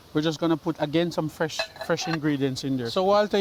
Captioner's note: pots rattling